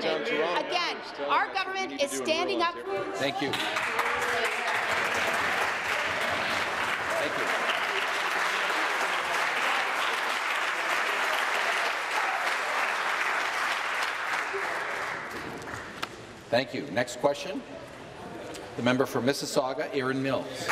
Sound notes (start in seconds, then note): 6.2 applause